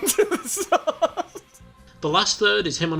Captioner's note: laughter